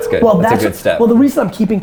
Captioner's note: phone ringing